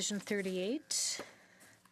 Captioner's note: speaking French